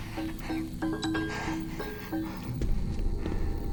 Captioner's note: watch beeps